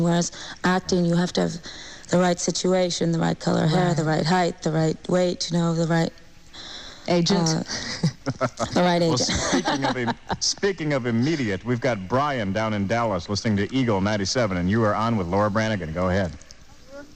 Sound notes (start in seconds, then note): 10.2 laughs